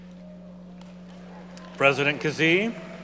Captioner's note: audience cheering